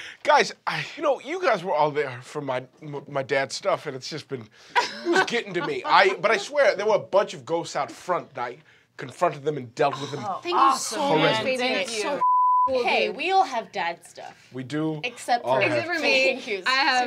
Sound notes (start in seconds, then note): 12.1 beep